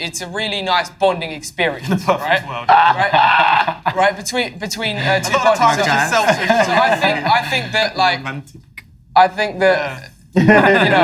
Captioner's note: laugh